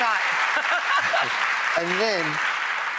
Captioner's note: laughs